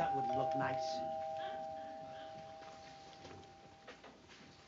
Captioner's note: doorbell